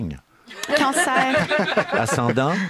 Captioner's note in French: rires